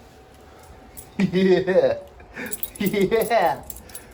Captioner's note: Ella laughs